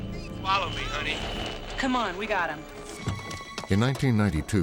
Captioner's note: radio chatter